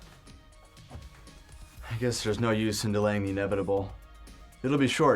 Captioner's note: sighs